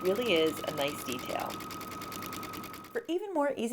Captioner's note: machine sounds